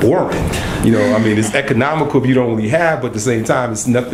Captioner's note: laughter